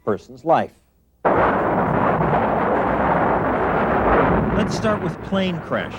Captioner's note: explosion